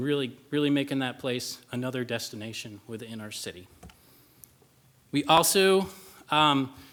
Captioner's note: none